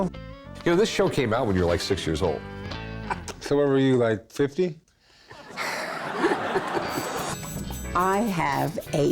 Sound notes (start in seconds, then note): 5.3 laugh track laughter; 5.4 chuckles